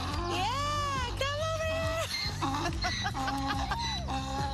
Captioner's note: laughing